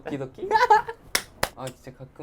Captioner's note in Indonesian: Terbahak